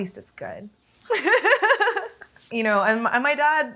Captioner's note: laughter